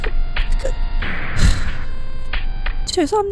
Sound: sighs

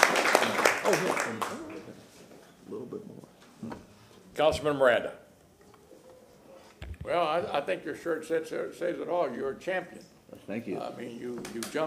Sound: applause

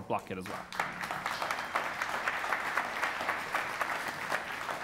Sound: applause

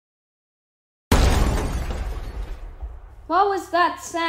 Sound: crash

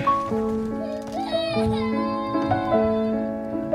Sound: crying baby

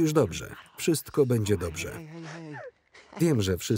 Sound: crying

